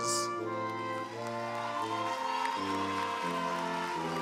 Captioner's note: applause